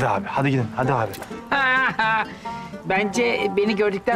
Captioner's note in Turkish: Gülme sesi